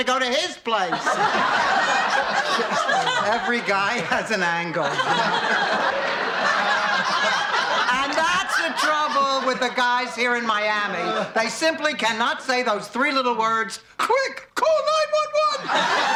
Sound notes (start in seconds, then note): 1.7 laughing; 5.3 laughing; 15.2 laughing